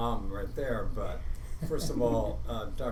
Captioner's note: laughing